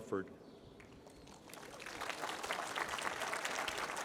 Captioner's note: applause